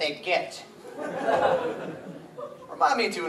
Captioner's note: audience laughs